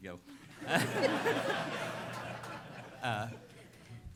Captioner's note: laughter